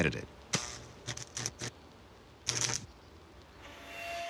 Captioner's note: zapping